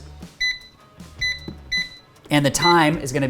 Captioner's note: machine beeping